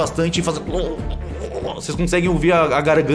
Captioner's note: choking sounds